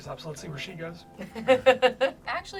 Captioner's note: laughs